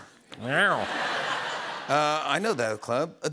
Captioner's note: laughter